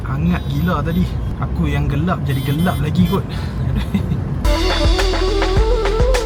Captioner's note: laugh